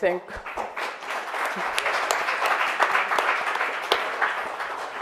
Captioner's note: audience applauds